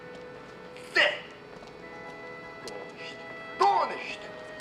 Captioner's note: speaking in foreign language